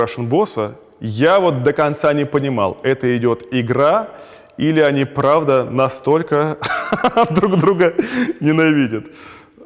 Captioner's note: laughs